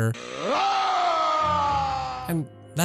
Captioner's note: Frieza yelling